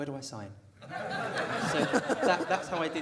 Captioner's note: audience laughter